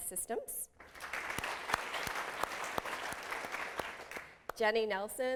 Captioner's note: applause